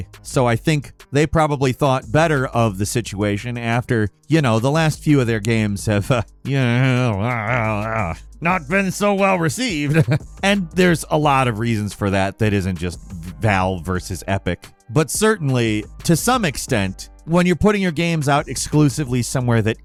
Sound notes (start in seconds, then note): 9.3 jabbering